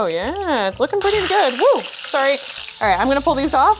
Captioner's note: oil sizzles